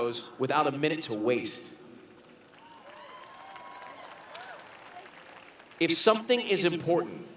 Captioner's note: cheering and Clapping